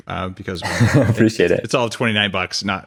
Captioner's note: laughs